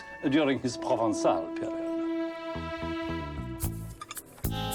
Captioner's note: speaks in foreign language; cutlery clattering